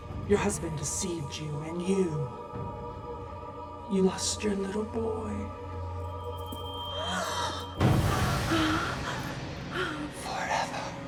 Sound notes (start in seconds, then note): 7.3 Bryn gasps